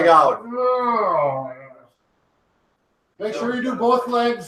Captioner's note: grunting